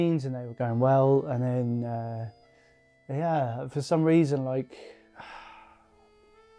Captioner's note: sighs